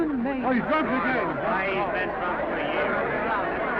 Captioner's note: all chattering